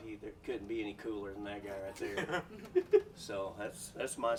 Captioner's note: man chuckling